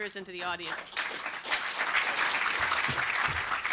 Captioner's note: applause